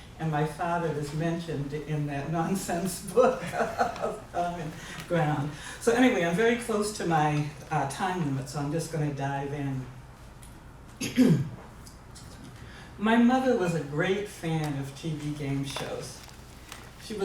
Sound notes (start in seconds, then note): 11.0 cough